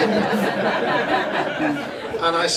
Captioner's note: crowd laughs